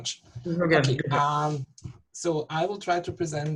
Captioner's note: murmurs